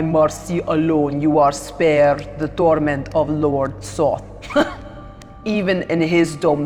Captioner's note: chuckles